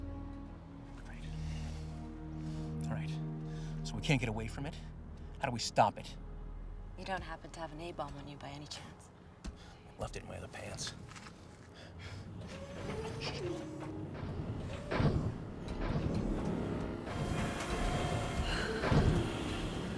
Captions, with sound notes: Right. All right. So we can't get away from it. How do we stop it? You don't happen to have an A-bomb on you, by any chance? I left it in my other pants. [Thud sound]